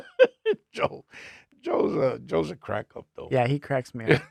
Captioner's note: laughing